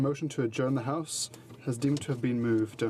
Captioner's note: speaking french